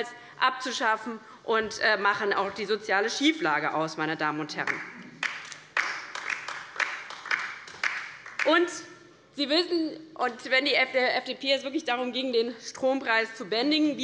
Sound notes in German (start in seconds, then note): 5.1 Beifall bei der LINKEN